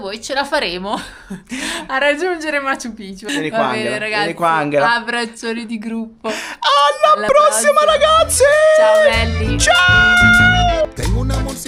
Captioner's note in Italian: risate